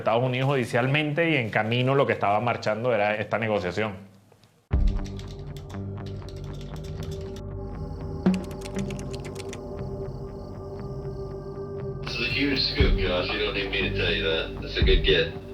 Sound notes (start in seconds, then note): 11.7 on phone